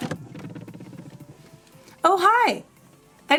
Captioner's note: door creaking